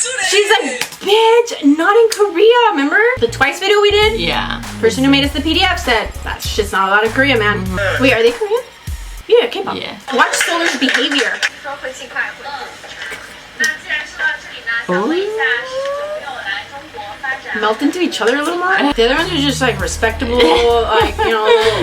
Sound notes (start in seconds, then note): 18.5 laughs